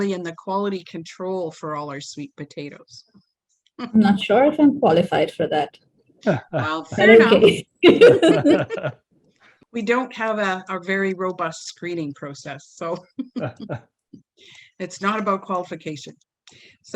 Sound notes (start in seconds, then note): 7.8 all laugh; 13.0 giggles